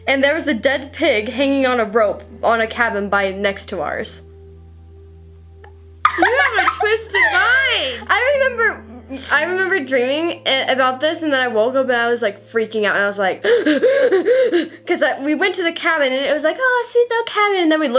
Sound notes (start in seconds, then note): 6.1 laughs; 13.4 gasps for breath